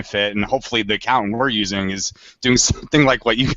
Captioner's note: laughs